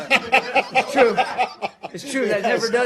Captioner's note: laughter